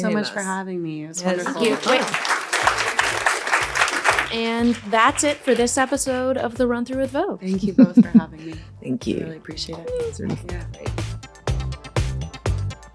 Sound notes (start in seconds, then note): 1.2 audience applauding; 10.1 upbeat music